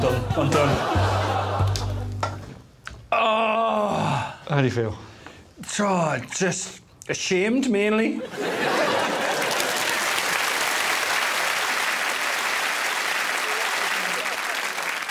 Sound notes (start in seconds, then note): 8.2 laughter; 8.9 cheers and applause